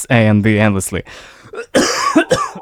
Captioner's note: coughs